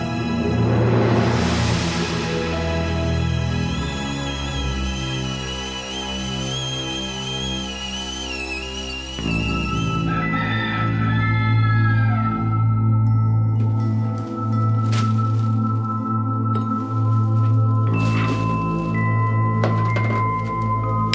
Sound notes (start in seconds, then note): 4.9 kettle whistling; 10.1 rooster crowing; 12.9 ominous music